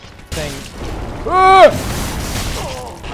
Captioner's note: screams